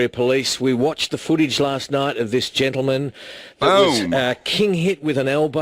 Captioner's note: boom!